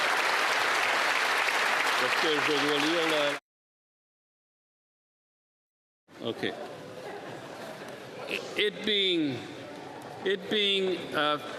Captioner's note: applause